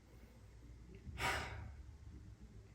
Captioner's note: sigh